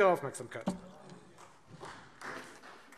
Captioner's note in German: Beifall Freie Demokraten